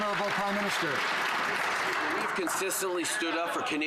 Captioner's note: some Applause